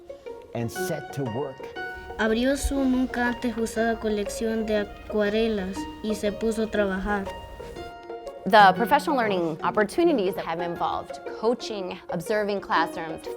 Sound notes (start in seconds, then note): 2.3 student speaking Spanish